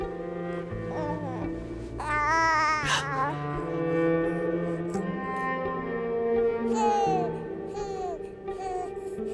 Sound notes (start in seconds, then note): 1.9 cooing; 2.7 gasps